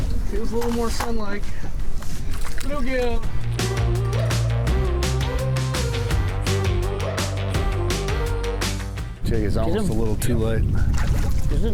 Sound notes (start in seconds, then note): 1.6 water sloshing